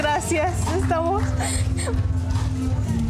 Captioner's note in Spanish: Solloza